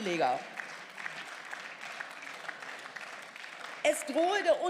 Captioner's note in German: Beifall